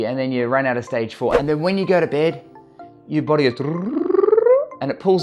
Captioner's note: trilling